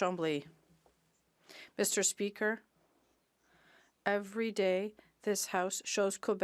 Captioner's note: speaking French